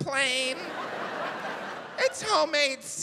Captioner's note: audience laughs